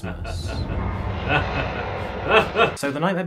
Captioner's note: maniacal laughing